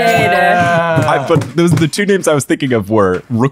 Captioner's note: fist pounding